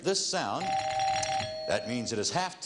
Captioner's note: ringing bell